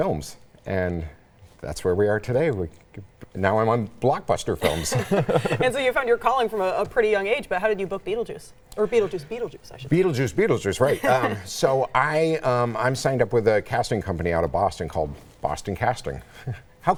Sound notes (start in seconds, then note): 4.6 laughs